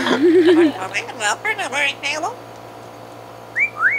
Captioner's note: laughs; bird murmurs; wolf whistle